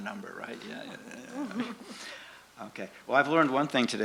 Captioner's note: laughs